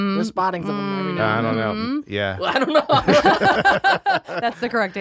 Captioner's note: laughing